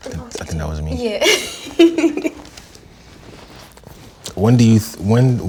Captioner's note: laughs